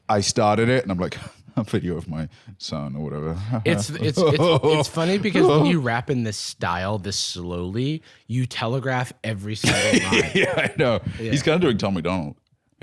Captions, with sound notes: I started it, and I'm like, (chuckling) "A video of my son," or whatever. (laughing, crying) It's funny, because when you rap in this style this slowly, - you telegraph every single line. - Yeah, I know. He's kinda like Tom MacDonald.